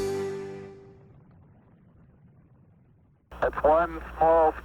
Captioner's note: engines roaring